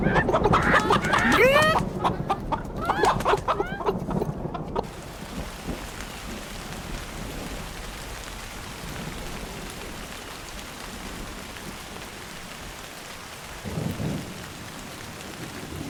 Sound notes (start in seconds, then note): 0.0 chickens cackling; 0.0 wings flapping; 4.9 distant thunder rumbling; 4.9 rain heavily pouring